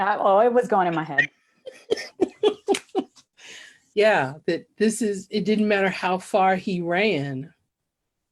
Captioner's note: laughs